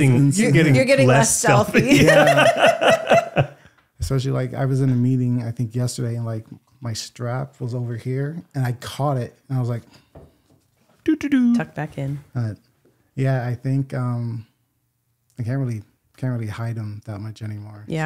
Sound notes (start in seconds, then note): 1.5 laughing